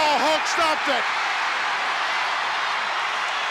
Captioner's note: crowd cheers